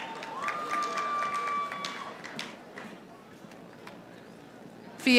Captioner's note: audience applauding